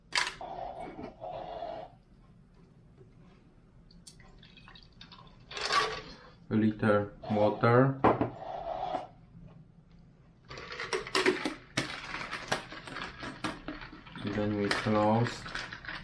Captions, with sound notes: (water splashes) A little water. (plastic cup scrapes) (ice rattles) So, then we close.